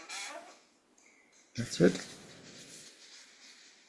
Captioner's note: tibetan